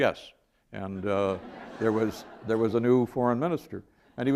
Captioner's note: laughter